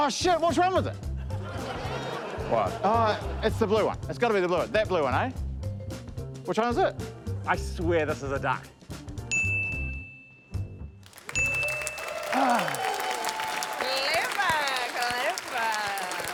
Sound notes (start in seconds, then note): 1.2 laughter; 9.3 ding!; 11.0 cheering, applause; 11.3 ding!